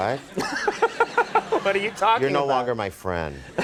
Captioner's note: laughing